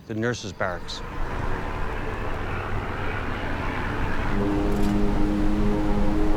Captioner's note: airplane engines revving